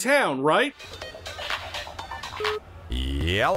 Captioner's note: new wave ringtone